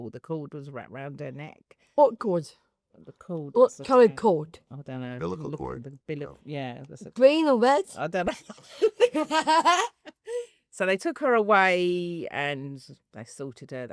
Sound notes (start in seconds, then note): 8.3 they laugh